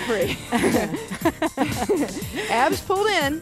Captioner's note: both laugh